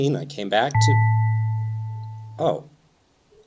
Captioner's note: ding